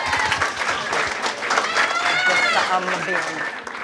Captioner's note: cheering and applause